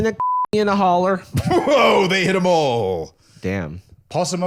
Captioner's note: laughing